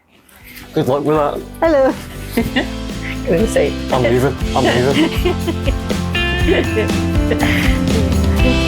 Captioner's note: laughter